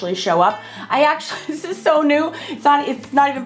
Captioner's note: laughing